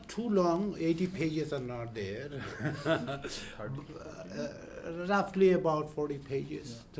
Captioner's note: laughs